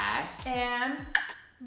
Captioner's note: click